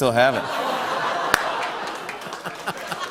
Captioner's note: laughter; laughs